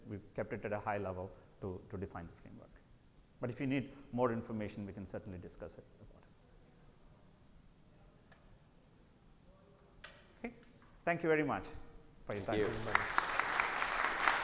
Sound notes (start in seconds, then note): 12.3 audience applauds